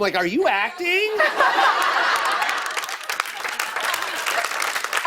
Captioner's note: laughter and applause